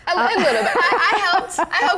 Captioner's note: laughs